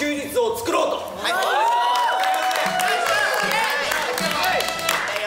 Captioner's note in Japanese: 拍手喝采